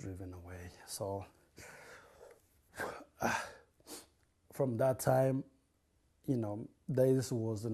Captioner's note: crying